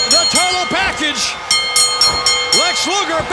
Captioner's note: bell ringing